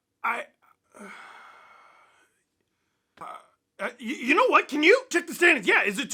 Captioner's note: exasperated noise